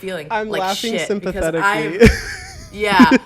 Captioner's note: laughs